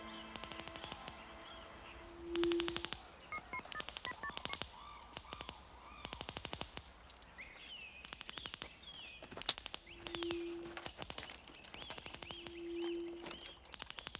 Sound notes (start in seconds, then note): 3.3 phone beeping; 9.7 branches cracking